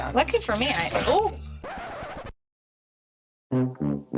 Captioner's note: cable rip; record scratch